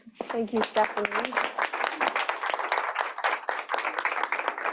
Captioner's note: applause